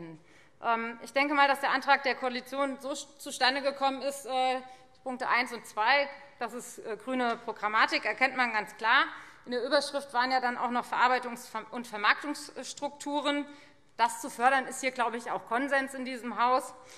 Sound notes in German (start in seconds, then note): none